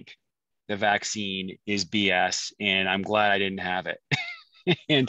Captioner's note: laughs